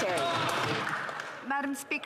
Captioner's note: applause